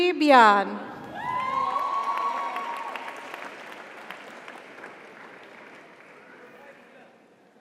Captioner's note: audience applauds; audience cheers